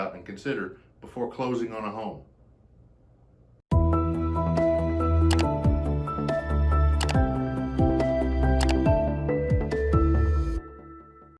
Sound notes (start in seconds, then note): 3.8 gentle music; 5.3 buttons clicking